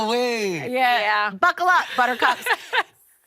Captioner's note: laughing